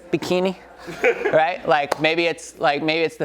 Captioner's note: audience member laughs